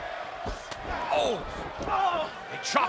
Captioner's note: boot thuds